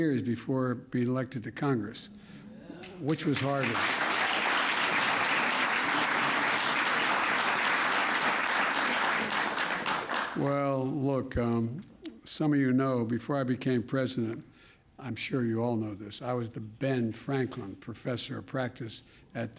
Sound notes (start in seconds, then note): 2.9 applause; 8.8 laughs